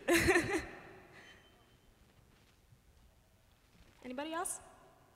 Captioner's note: laughter